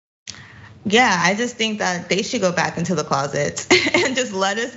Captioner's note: laugh